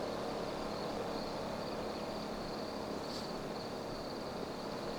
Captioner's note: crickets chirping